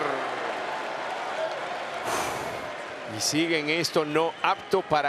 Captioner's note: applause